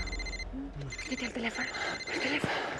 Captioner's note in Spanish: Suena un celular